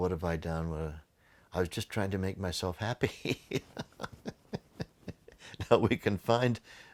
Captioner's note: laughing